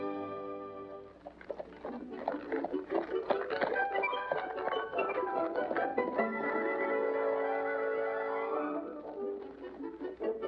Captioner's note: romantic music; hooves trotting